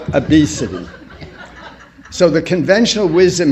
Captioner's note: laughter